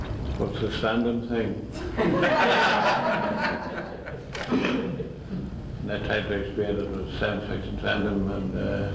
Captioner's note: much laughter